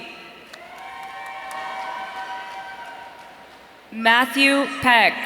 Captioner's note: audience cheering